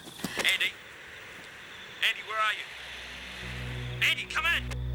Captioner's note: two-Way Radio